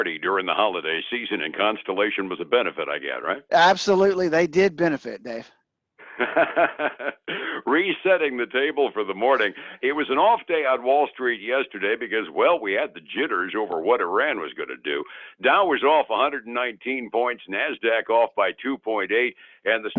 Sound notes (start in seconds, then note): 6.0 laughs